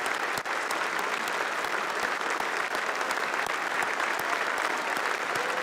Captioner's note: applause